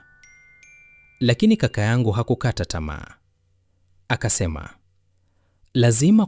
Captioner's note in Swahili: kengele